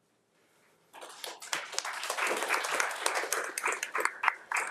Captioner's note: everyone applauding